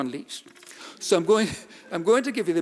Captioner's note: audience laughing